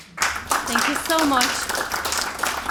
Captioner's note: audience applauding